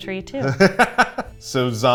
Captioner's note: laughing